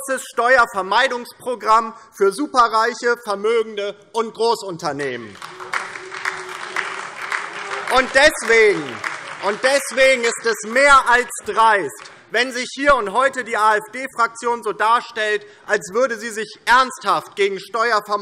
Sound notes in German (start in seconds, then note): 5.2 Beifall DIE LINKE und SPD - Zurufe AfD